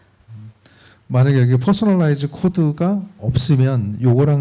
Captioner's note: speaking korean